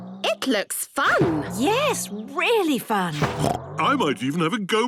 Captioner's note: snorts